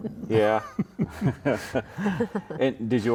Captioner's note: all chuckling